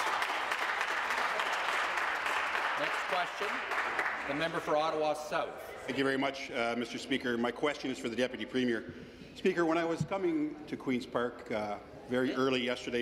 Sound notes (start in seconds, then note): 2.1 some Applause